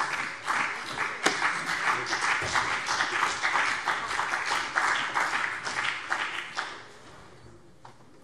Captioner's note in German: Beifall BÜNDNIS 90/DIE GRÜNEN